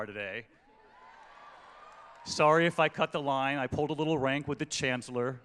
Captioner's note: cheering